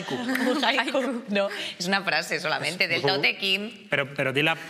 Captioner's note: laughter